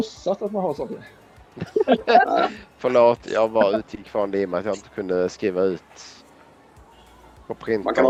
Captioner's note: laughing